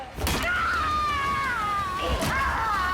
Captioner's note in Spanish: Golpes